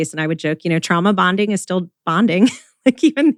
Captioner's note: laughs